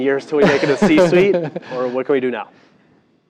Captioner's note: laugh